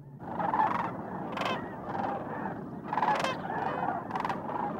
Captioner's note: birds squawking